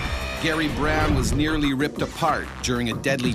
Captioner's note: voiceover